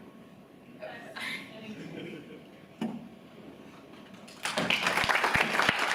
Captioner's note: both laugh; audience applauds